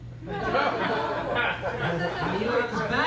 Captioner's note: laughter